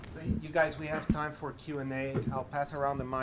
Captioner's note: voiceover